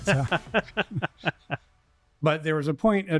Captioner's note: laughter